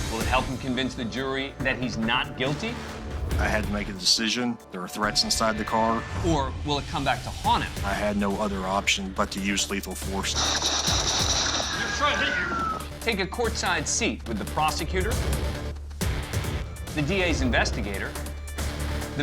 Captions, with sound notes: Will it help him convince the jury that he's not guilty? - I had to make a decision. There were threats inside the car. - Or will it come back to haunt him? - I had no other option but to use lethal force. [gunshots] He was trying to hit you. - Take a courtside seat with the prosecutor, the DA's investigator,